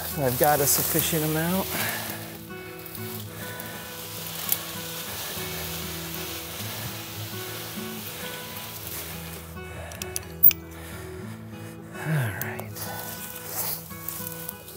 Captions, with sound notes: if I've got a sufficient amount. (gentle instrumental music) (leaves rustling) Alright, see what we got.